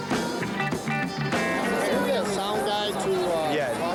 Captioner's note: crowd Noises